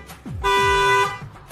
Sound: car horn

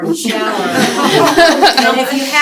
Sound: laughter

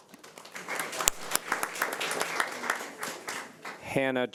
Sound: audience applauding

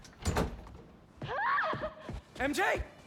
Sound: scream

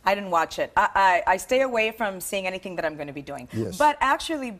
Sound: speaking spanish

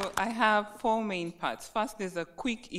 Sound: applauding

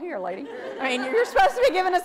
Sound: audience laughs

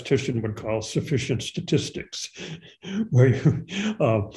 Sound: chuckles

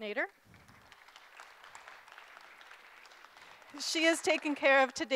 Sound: group applauding

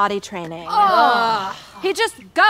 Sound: all groan

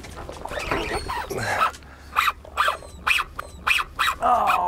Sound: grunting

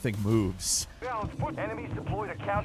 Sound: radio Voice

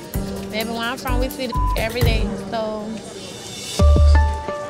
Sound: beep sound

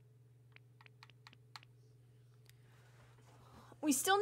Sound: low Whispering Continues

